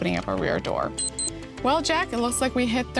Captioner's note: beeps